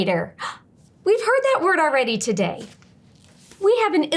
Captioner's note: gasps